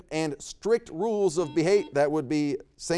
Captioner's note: buzzer beeps